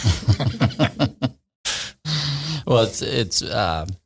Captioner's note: laughing